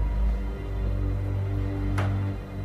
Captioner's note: none